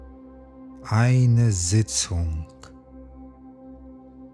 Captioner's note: german